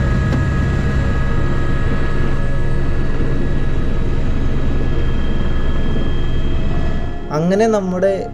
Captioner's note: helicopter sound internal